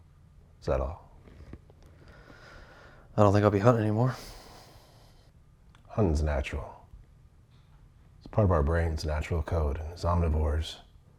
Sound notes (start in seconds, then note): 4.1 inhales; 5.2 exhales